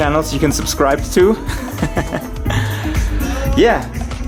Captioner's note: laughs